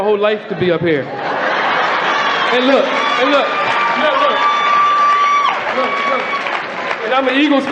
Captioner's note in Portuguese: Platéia ri